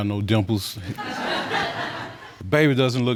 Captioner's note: audience laughing